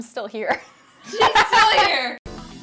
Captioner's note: laughs